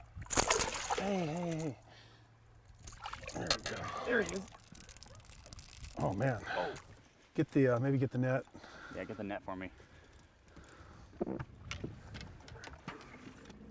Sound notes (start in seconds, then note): 6.1 reel cranking